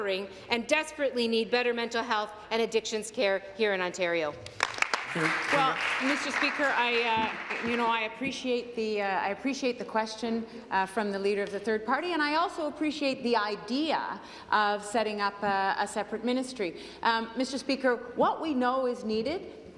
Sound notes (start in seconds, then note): 7.6 applause